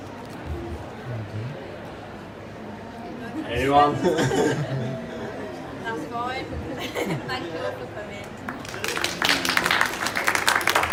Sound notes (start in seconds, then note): 8.4 audience claps